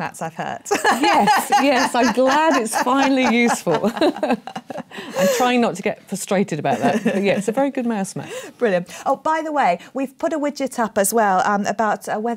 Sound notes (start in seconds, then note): 0.8 laughs